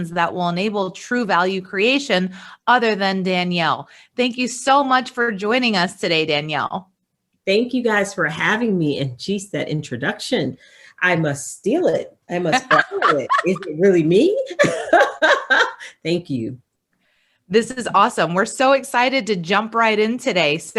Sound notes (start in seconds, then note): 14.4 laughs